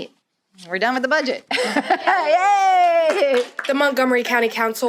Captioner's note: laughter and applause